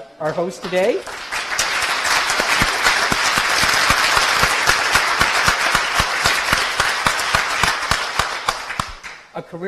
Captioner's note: applause